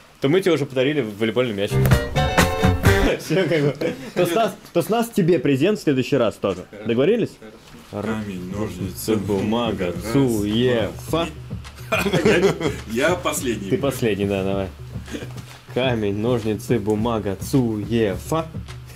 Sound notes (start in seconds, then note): 2.9 laughing